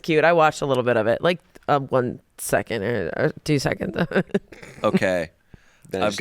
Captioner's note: laughs